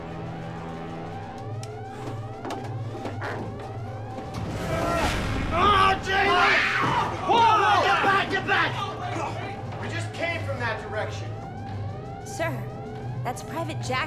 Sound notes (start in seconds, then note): 3.8 grunting groan; 5.8 woman screams; 8.8 voiceover